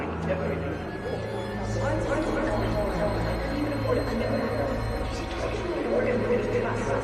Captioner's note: chatter continues